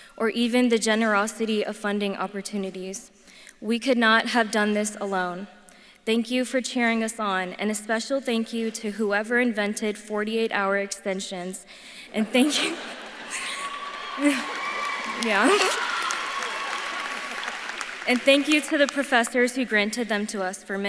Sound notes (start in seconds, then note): 12.1 audience laughs; 13.0 laughs; 14.7 audience claps and cheers; 16.0 laughs; 16.7 audience claps and cheers